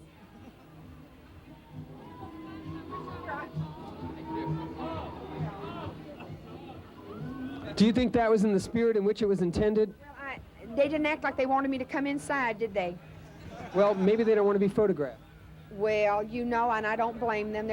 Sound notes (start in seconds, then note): 0.2 street sounds, traffic and talking; 3.0 voices from a distance